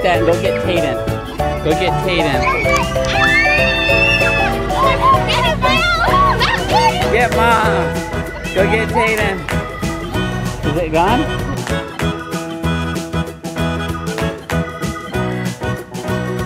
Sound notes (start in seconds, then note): 2.4 screaming; 12.5 happy music